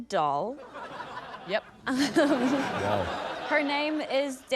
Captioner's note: laughter